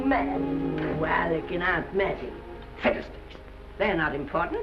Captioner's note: scoffs